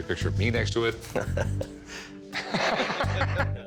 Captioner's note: laughs